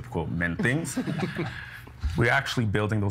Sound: others laughing

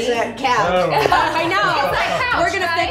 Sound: giggles

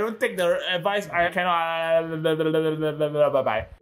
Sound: some drunk noises

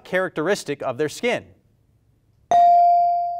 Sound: bell rings

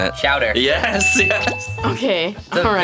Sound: bell dings; chuckles

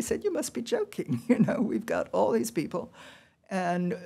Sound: laughter

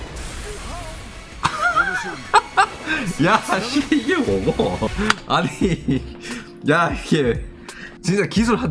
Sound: Chat mentions Sasuke from the Naruto series, also bursts out in laughs

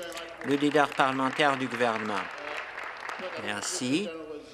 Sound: applause

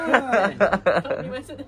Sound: laugh

